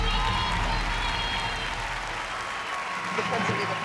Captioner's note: applause